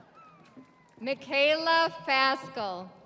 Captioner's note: audience applauding; audience cheering